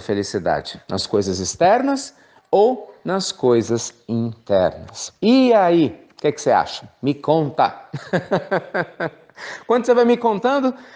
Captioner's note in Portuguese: risos